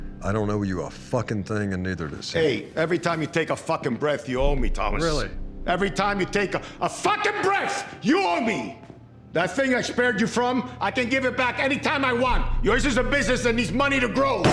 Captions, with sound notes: I don't owe you a fucking thing, and neither does he. Hey, every time you take a fucking breath, you owe me, Thomas. Every time you (SHOUTING) take a fucking breath, you owe me. That thing I spared you from, I can give it back anytime I want. Yours is a business that needs money to grow.